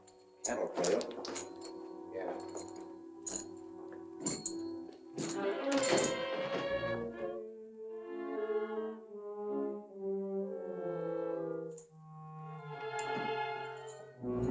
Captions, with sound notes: - Look out. - Yeah. [ FOOTSTEPS ]